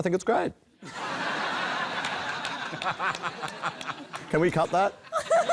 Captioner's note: laughter